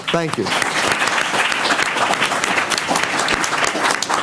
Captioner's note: applause